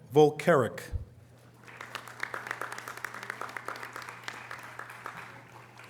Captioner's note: audience applause